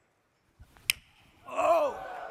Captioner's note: crowd